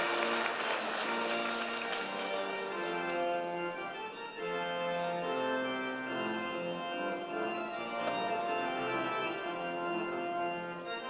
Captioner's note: applause